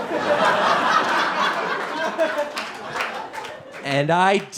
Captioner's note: audience laughing